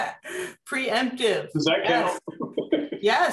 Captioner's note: laughter